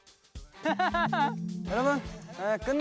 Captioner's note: just laughs